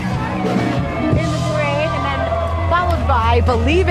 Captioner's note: crowd cheering